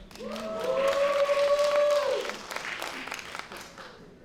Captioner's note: applause